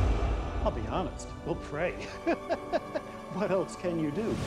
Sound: chuckles

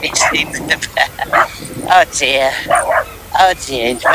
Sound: Sound of Keeva the Pickle barking

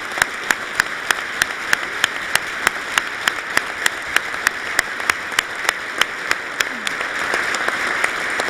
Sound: applause

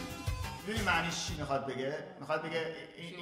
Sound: speaking in farsi

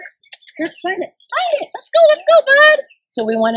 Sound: kissie sound

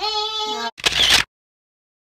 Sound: camera shutter

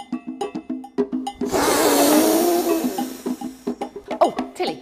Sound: blowing

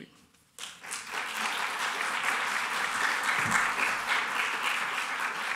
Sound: applause

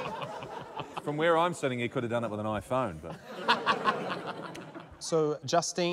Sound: laughter

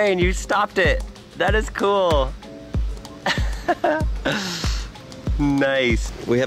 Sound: chuckles

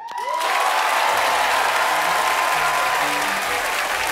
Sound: audience cheers

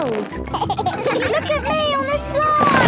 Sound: giggles

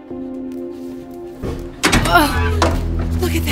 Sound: clanking

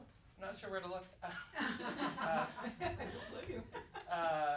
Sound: laughter

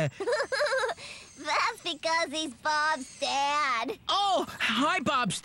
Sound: giggles

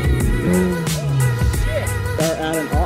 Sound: car revving

